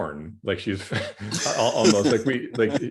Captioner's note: laughs